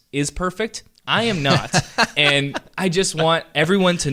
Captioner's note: laughter